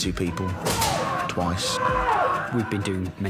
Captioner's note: men yelling